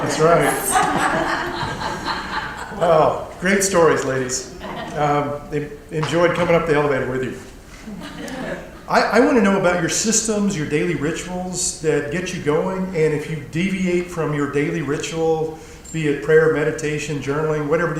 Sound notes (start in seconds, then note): 0.0 laugh